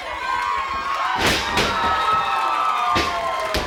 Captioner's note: audience cheering; body thuds; hand thudding